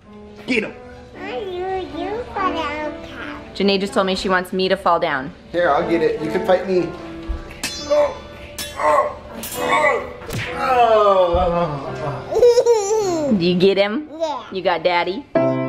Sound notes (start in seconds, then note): 7.6 metal sword slashes; 9.6 grunting; 10.7 groans; 12.3 giggles